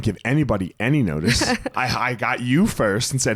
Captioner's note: laughs